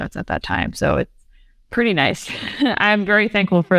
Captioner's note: laughs